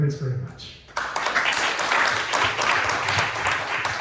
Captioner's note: clapping